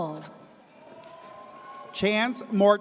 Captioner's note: audience cheers